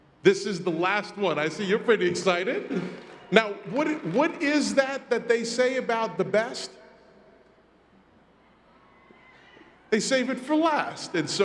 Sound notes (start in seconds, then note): 8.0 crowd cheers